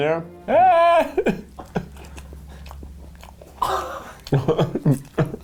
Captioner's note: laughs